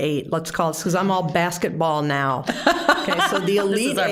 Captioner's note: all laughing